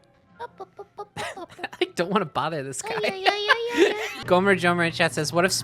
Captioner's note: Timmy voice; kitty voice; laughing